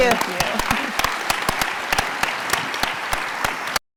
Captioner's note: applause